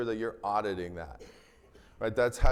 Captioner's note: attendee coughing